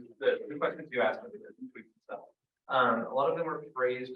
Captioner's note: audio blurs